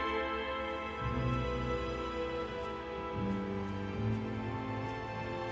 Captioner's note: grass crunching